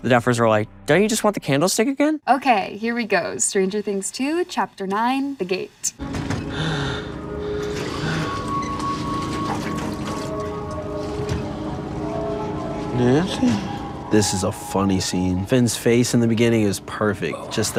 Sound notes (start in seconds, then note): 6.0 Finn panting; 6.0 ominous music; 7.6 metal clanking; 7.9 liquid dripping